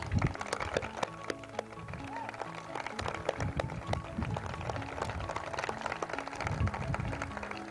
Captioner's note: applause